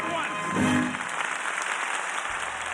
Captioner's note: applause